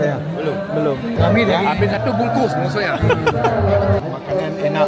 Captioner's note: laugh